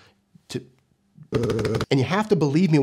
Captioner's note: humming